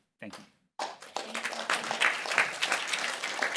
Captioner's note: applause